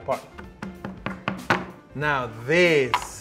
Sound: tapping knife

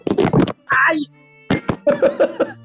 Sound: clattering; yells; laughing

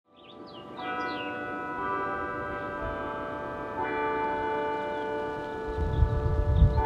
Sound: birds chirping; carillon chiming

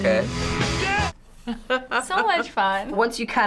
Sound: laughing

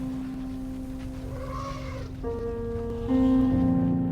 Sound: calm music playing; elephants trumpeting

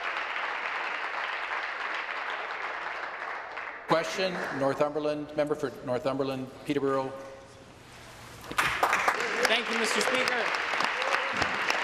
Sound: applause

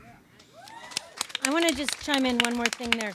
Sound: audience claps and cheers

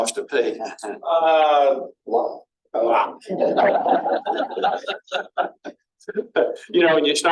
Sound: laughter; laughter

